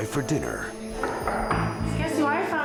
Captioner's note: knocking